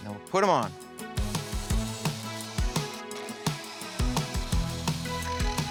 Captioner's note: electric saw whirs